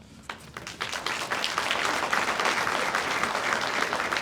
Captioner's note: audience applauds